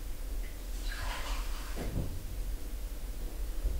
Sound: sound of tap running to fill glass

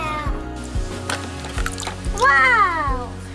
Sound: water trickling

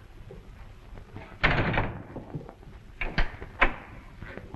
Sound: door closes

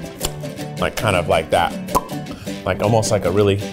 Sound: smacks lips

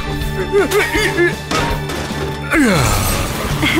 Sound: tank groans, grunts

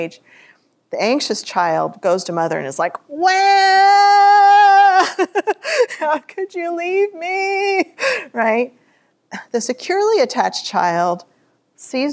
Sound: laughter

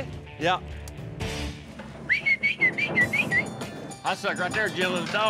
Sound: whistling

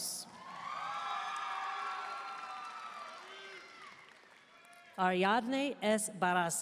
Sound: audience cheering and applauding

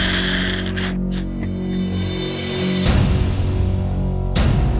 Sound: laughs

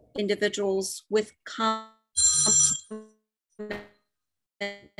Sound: phone ringing

